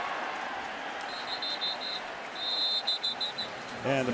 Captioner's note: whistle blowing